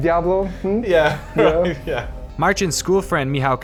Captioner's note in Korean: 웃음